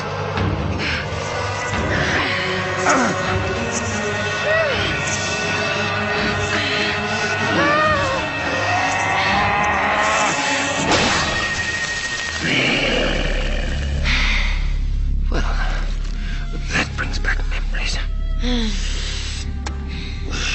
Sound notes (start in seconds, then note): 12.1 moaning; 12.4 grunting; 14.5 growling